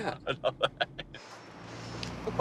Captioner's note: laughing